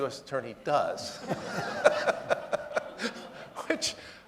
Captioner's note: audience laughing